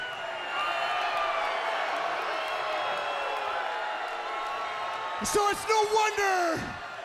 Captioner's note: crowd cheering